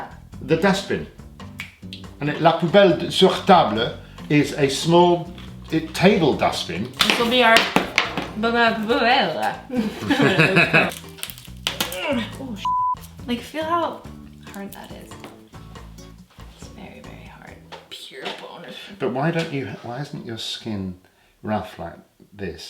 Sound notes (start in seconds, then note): 9.6 laughing; 12.6 beep